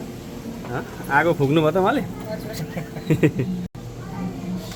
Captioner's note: laughter